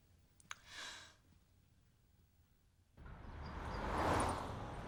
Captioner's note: sighs